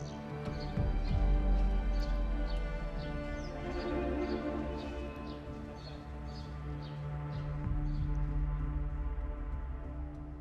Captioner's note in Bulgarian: Чуруликане на птици на заден план